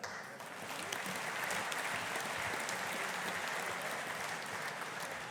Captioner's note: audience applauding